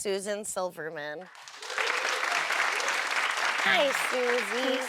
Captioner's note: audience applauds